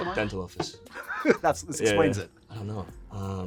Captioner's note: laughing